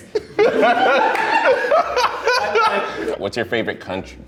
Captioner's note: laughter